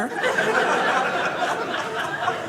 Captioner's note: audience laughing